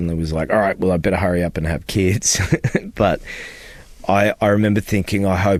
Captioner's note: laughter